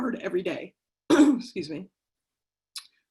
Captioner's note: clears throat